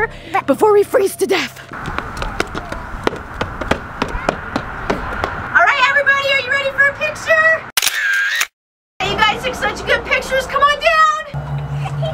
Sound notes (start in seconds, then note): 7.8 camera snapping